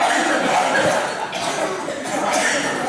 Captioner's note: Mimi coughs